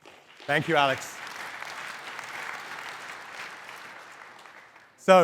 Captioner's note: crowd applauding